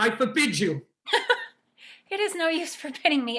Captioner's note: Nora chuckles